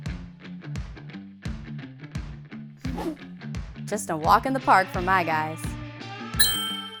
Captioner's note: woosh